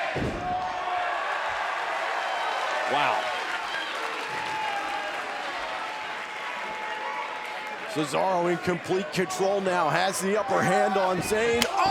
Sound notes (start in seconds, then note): 0.2 crowd cheering; 4.0 crowd cheering and clapping